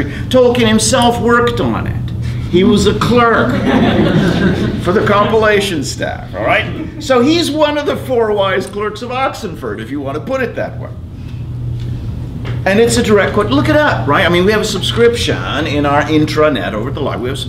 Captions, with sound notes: Tolkien himself worked on it, he was a clerk (laughter) for the compilation staff, alright? So he's one of the four wise clerks of Oxenford if you want to put it that way. And it's a direct quote, look it up, right, I mean we have a subscription in our intranet, over at the library,